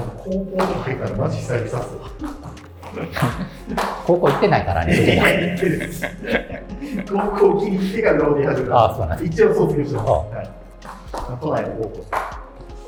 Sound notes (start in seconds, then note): 6.5 laughing